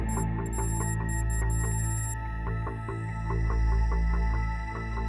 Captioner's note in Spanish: pitidos electrónicos